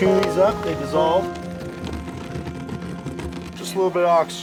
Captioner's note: sound of gurney rolling